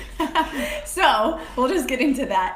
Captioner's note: laughing